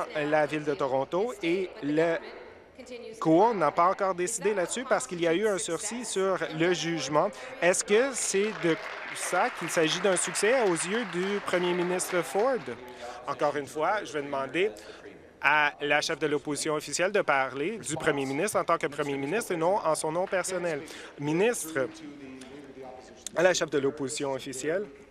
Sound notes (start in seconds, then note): 10.6 applause